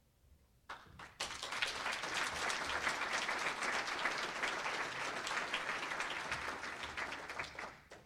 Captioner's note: applause